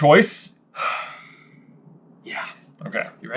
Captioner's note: exhale